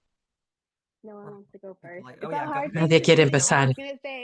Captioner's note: hablando inglés